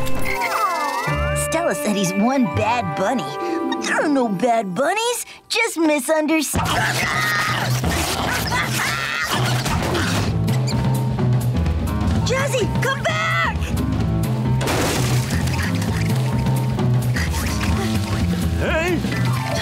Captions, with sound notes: Aw. Stella said he's one bad bunny, but there are no bad bunnies, just misunderst- [screaming] Jazzy, come back! Hey?